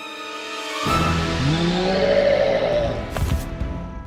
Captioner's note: roar